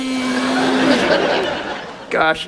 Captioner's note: audience laughs